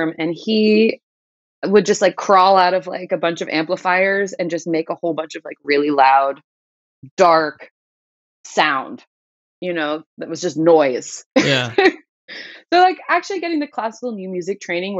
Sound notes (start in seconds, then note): 11.4 laughter